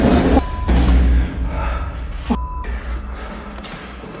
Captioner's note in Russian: дверь закрылась